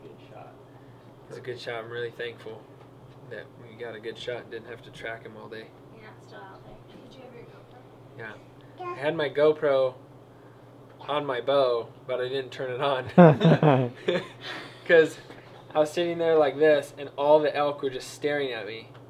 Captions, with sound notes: it was a good shot, i'm really thankful that we got a good shot and we didn't have to track him all day did you have your gopro? i had my gopro on my bow, but i didn't turn it on (laughter) cause i was sitting there like this and all the elk were just staring at me